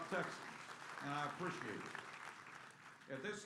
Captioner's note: applause